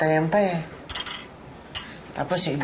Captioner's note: chopsticks clattering